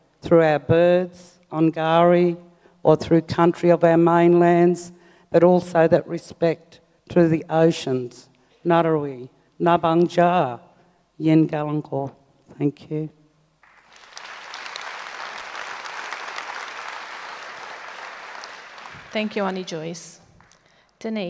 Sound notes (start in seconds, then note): 8.8 speaks native language; 13.6 audience applauds